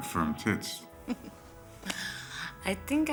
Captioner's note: laughs